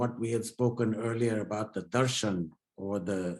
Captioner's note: speaks in foreign language